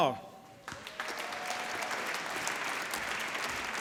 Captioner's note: applause